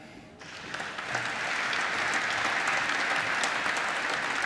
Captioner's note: applause